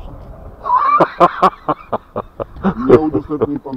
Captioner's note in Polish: mój śmiech